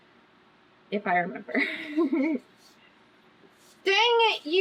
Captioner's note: laughs